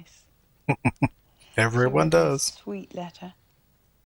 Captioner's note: chuckling